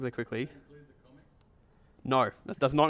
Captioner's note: voiceover